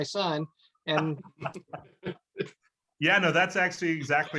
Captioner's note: laughs